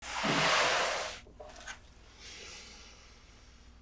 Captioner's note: box sliding